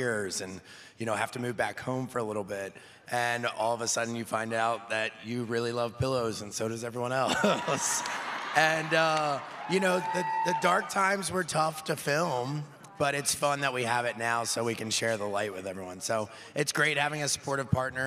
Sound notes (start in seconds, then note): 7.3 laughing